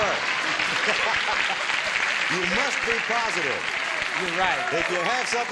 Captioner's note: laughs